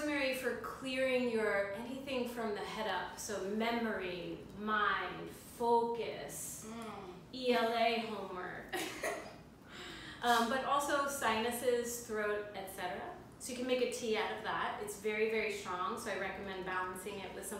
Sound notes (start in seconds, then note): 8.9 laugh